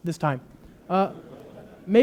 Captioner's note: loud laughter